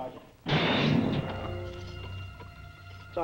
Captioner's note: slam